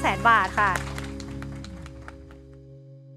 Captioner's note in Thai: เสียงปรบมือ